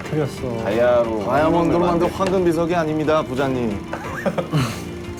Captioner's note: rumbling